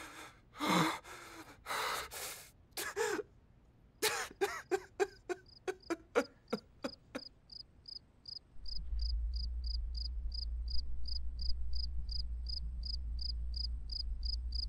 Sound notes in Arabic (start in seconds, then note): 4.1 بكاء; 7.5 زقزقة لعبة الكريكيت